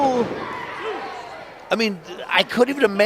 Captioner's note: audience yells